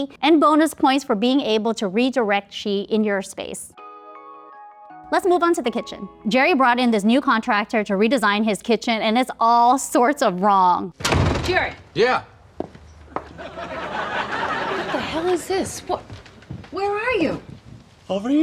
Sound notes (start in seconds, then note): 3.7 gentle music; 13.1 people laughing